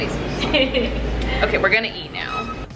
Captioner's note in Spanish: se ríe